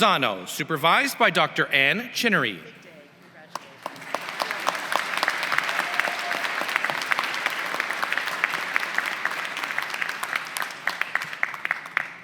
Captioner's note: applause